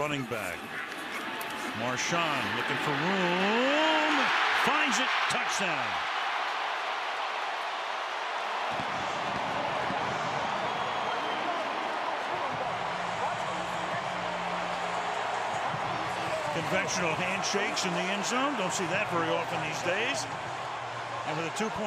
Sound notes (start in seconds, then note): 7.0 crowd cheering